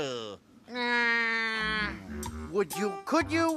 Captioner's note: squawking